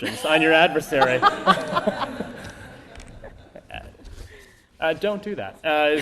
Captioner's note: laughter